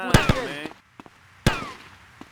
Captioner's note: gun fires